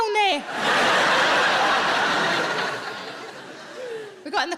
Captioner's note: audience laughs